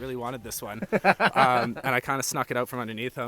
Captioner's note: laughing